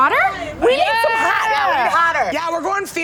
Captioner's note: cheering